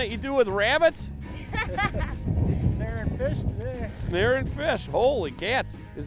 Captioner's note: laughing